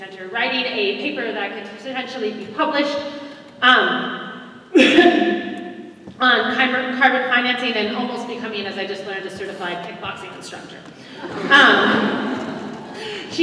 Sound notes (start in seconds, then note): 4.8 cough